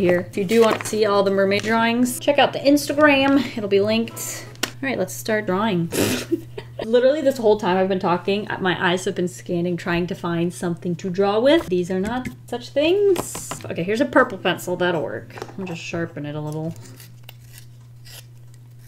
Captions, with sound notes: If you do want to see all the mer-may drawings, check out the Instagram, it'll be linked. Alright, let's start drawing. [Laughs] Literally this whole time, I've been talking, my eyes have been scanning trying to find something to draw with. These are not such things. Okay, here's a purple pencil, that'll work, I'll just sharpen it a little.